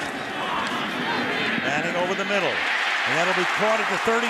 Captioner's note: cheering